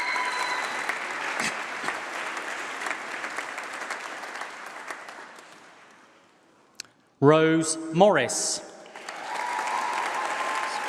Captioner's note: applause